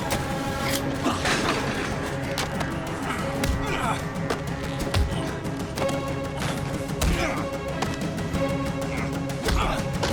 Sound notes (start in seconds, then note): 3.0 grunting